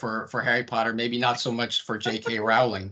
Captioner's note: laughing